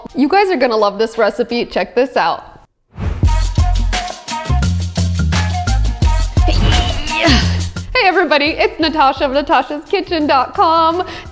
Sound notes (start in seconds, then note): 3.3 upbeat music; 6.4 grunting